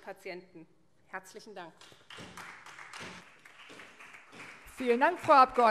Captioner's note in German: Beifall SPD